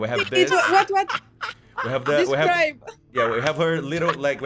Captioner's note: laughs